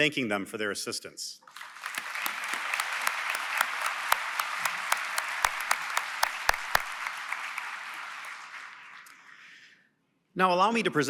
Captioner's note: applause